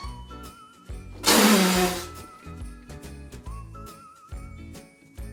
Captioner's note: Arizona spits; door creaks